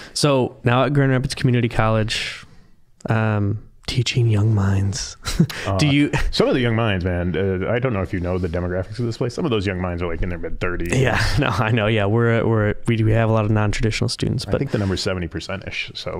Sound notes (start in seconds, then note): 5.2 chuckling; 10.9 laughing